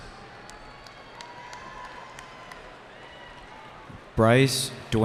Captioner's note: cheering